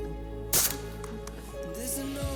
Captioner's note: gun fires